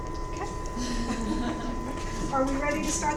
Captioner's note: women chuckling